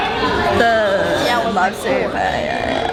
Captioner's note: laugh